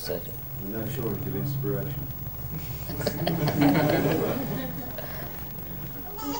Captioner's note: laughter